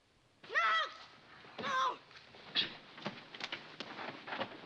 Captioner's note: Buddy Shouting